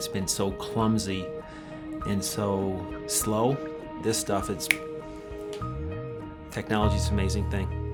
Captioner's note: snap